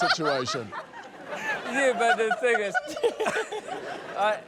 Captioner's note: laughter